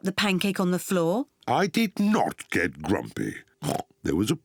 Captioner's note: oinks